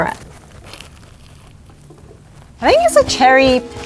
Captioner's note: donut crunches